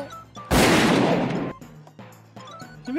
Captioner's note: gunshot